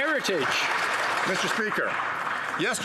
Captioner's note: some Applause